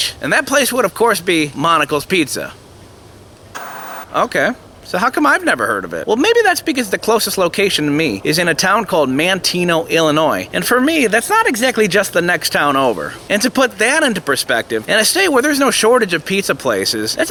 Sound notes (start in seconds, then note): 3.5 TV Static